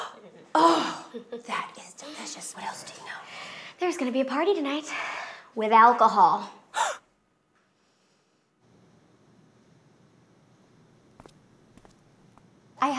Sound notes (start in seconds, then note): 1.0 gasps; 6.7 gasps